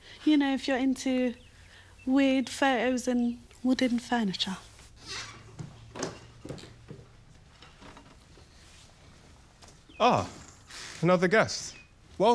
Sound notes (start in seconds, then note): 5.0 door squeaking